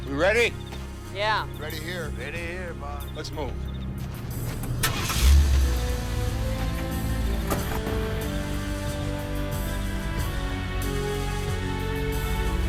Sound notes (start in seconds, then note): 5.2 slow dramatic music; 5.2 truck engine revs